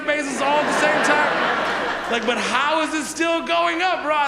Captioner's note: audience laughs